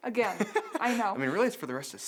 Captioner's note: chuckles